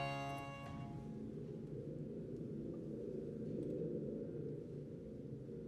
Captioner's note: thunder tube rumbling